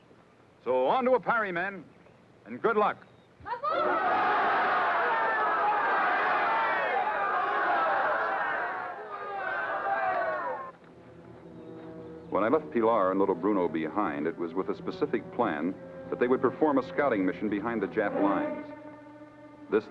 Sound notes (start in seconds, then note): 3.5 troops shouting